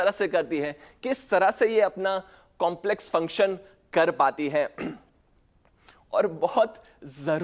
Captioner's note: clears throat